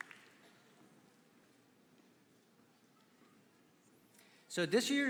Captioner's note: applause